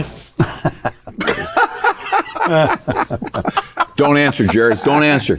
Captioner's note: panelists laughing